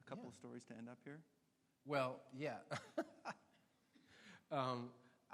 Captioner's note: laughs